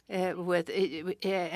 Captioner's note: speaking French